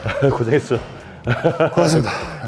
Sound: laughing

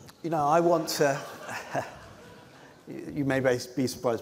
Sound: laughter

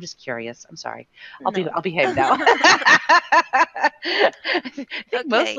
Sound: laughing

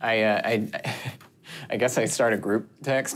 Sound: laughs

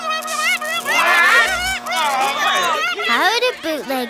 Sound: murmuring

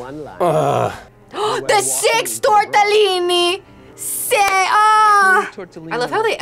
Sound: gasps

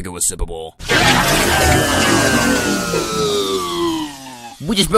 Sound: disintegrating hissing

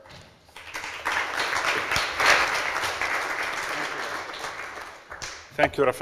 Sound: applause

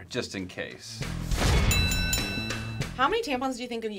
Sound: bell rings

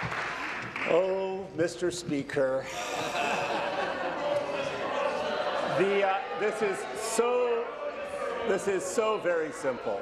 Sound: applause

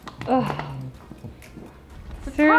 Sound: groans

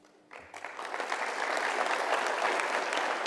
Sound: applause

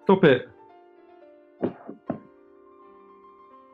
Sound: leather sofa creaks

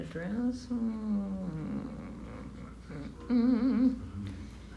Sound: mumbling melodically

